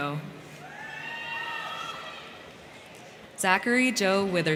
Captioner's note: crowd cheering; crowd clapping